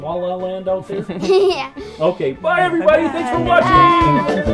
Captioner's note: giggles